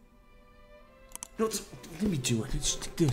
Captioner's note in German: Klick